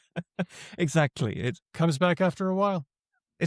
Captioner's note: laughs